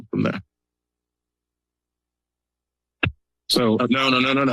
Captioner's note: silence